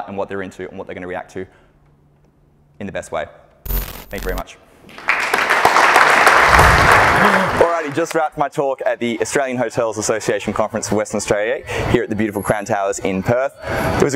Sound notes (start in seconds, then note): 4.9 audience clapping